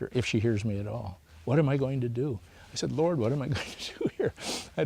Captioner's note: laughs